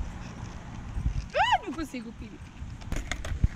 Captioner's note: screems